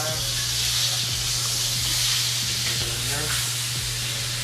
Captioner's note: pan sizzles